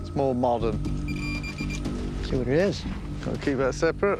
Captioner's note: beeping